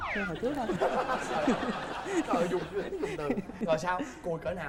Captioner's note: laughing